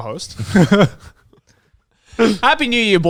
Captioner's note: speakers laughing